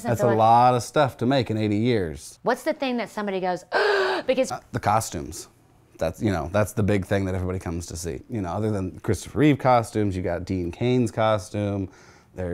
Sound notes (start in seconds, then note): 3.7 gasps